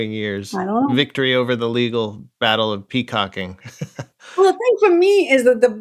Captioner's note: laughter